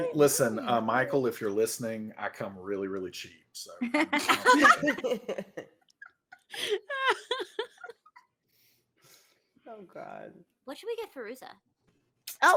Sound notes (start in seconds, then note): 3.8 all chuckling